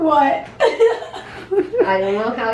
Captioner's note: laughter